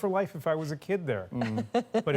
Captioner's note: laughter